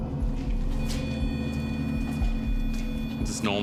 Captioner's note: device beeping